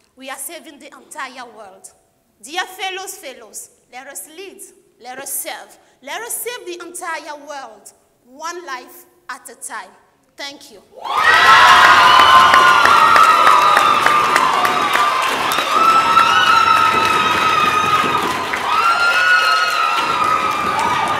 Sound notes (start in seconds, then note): 11.0 cheering; 11.2 applauding